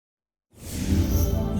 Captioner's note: whoosh